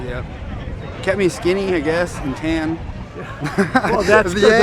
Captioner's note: laughing